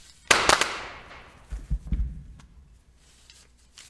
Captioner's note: cracker bangs